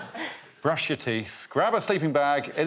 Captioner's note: laughter